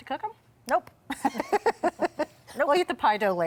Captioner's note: both laughing